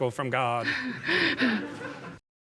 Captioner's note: audience and chuckling